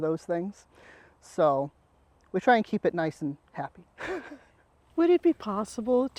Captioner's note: laughs